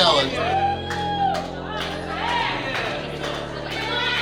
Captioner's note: cheering; drifty music